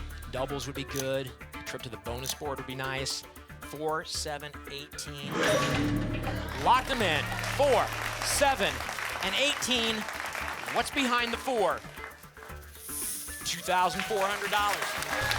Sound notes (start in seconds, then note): 5.4 lock sound; 15.1 applause